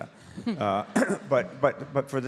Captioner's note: audience laughs